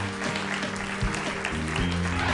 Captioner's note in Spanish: aplausos